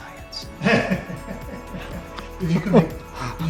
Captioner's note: laughter